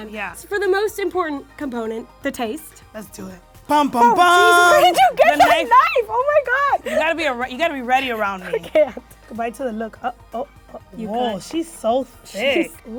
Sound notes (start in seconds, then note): 3.7 imitating shocking music; 5.1 yelling